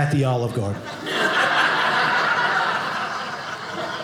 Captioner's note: audience laughing